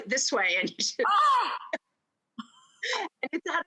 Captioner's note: gasps